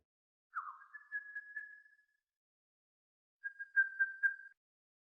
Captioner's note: bird singing